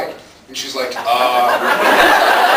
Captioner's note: laughs